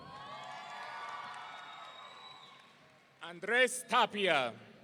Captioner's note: audience cheering